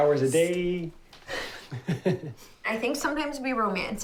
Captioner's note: laughs